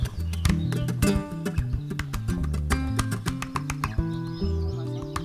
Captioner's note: birds chirping